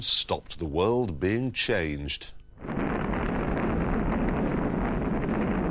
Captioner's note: rumbling